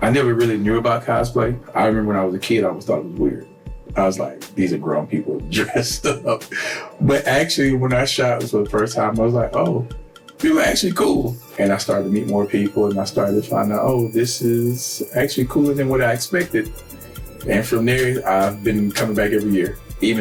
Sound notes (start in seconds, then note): 5.5 laughs